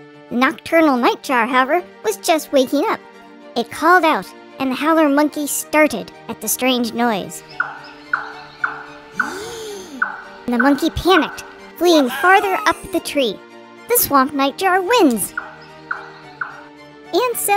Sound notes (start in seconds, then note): 7.3 swamp nightjar "chop chop chop" song